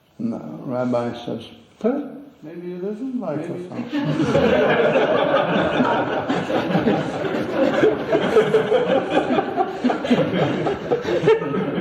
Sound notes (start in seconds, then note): 5.9 laughter; 7.6 laughs